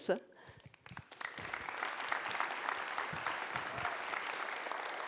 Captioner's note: audience applauds